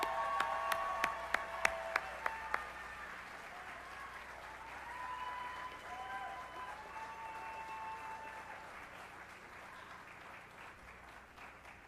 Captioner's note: applause